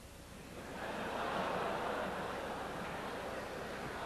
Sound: audience laughs

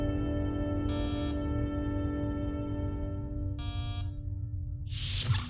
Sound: door chimes twice

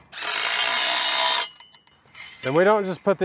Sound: drill whirs

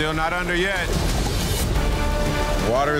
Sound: dramatic music; water gurgling

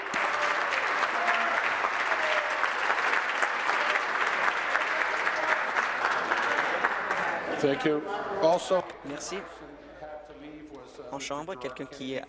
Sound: applause

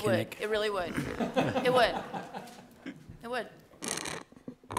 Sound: laughter

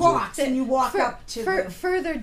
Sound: voiceover

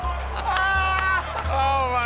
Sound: laughing

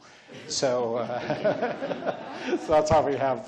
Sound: laughs

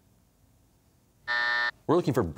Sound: buzzer

